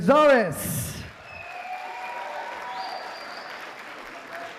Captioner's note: applause